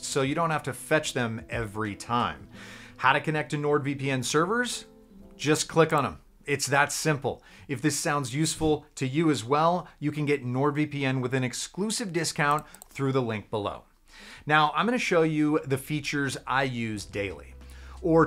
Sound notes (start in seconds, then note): 12.4 mouse clicks